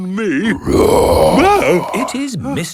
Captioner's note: loud roar